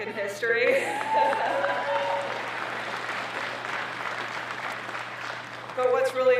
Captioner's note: applause